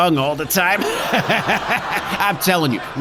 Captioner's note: laughs